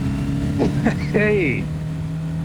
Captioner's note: laughter